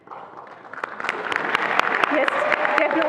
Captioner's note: attendees applauding and cheering